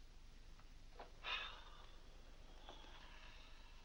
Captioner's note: sighs